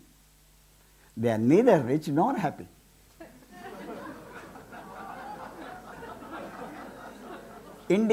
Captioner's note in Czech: smích